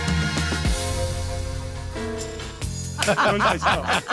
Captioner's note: laughing